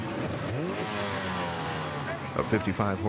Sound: boat motor

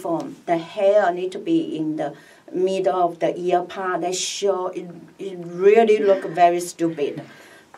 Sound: laughs

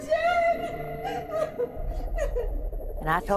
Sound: crying

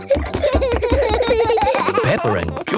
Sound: both giggling

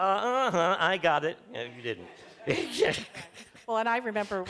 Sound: laughter

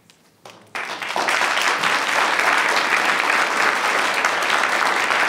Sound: audience applauding

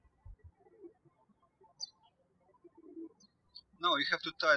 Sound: birds chirping

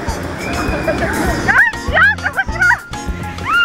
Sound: waterfall

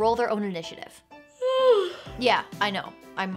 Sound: yawns

